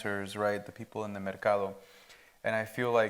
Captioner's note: speaks Spanish